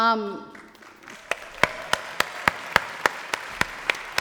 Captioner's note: applause